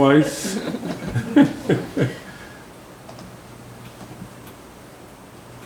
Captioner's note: members chuckles